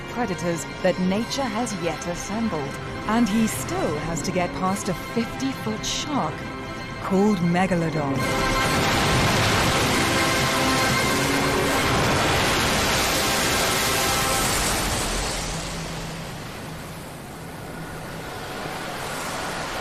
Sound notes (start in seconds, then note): 13.8 Megalodon crashing through the water